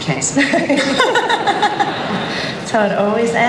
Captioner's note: laughter